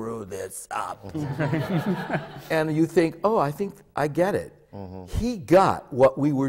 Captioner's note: laughter